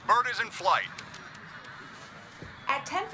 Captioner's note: crowd